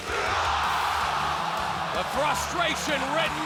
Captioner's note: crowd exclaiming